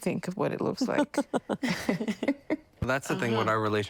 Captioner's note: laughter